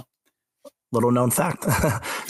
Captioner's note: laughs